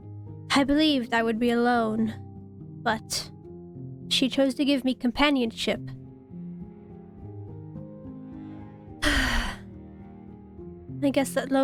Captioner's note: sighs